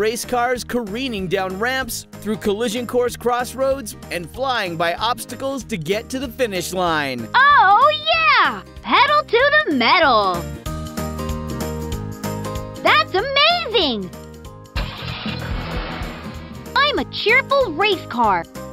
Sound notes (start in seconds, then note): 14.8 engine starting